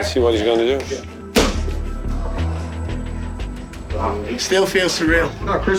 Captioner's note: kick landing with a thud